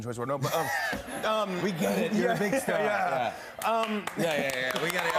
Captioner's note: claps; cheers and applause